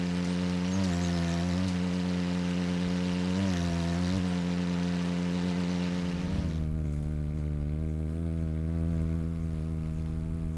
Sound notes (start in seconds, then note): 2.0 bird's wing flapping; 2.0 birds chirping